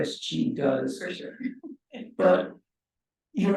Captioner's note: chuckles